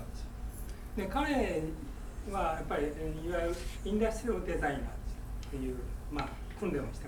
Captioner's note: speaking in foreign language